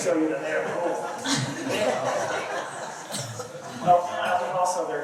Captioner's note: laughter